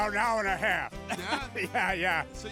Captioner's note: both chuckling